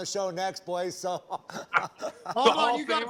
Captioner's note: laughter